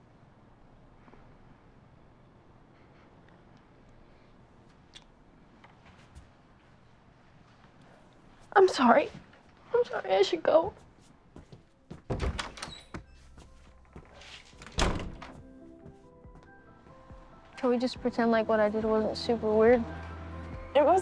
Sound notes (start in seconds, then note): 10.6 footsteps; 12.0 door bangs; 15.3 upbeat music